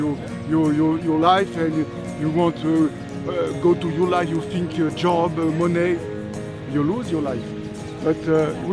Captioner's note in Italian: Inglese